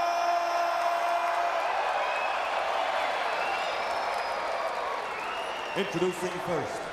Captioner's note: crowd cheering